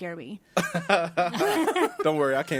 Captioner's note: laughs